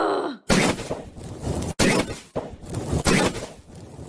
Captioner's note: explosions